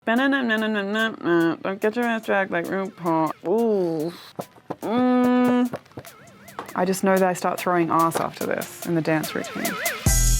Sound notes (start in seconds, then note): 0.1 humming; 10.1 bright music